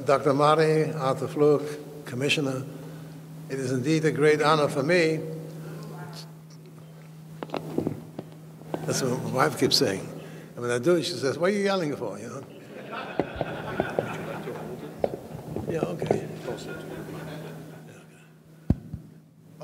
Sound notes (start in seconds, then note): 12.5 audience laughing